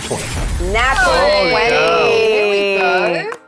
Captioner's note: players cheering